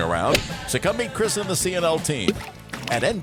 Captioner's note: golf Club Swings; ball Plunks; ball Clatters Into Cup